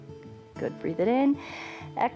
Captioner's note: exhales; inhales